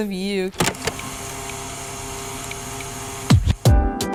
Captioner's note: whirring; upbeat music